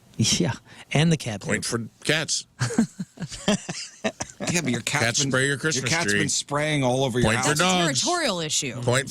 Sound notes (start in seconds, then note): 4.4 laughing